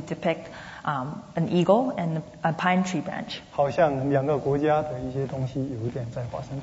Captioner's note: speaking Mandarin; speaking Mandarin